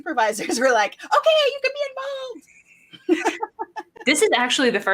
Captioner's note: laughs